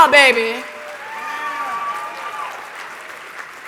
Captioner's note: applause